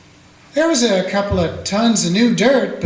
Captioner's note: none